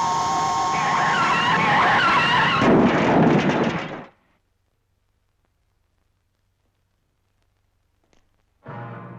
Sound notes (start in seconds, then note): 0.7 car crashing